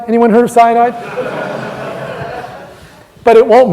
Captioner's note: loud laughter